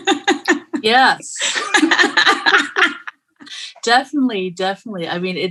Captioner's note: laughing